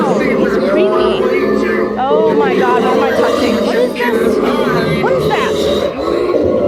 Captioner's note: creepy growling/talking